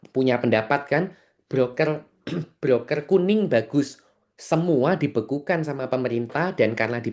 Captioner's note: berdehem